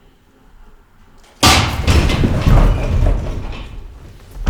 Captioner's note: banging